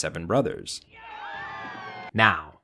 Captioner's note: all cheering